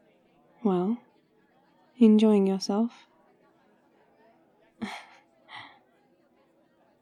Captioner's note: laughs